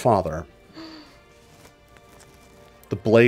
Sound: player gasps

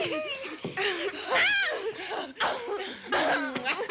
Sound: women groaning

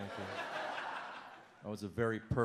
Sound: audience laughs

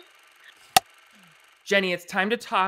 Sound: clapperboard cuts

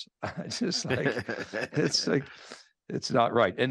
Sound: laughing

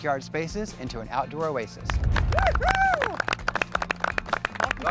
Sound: participants clapping

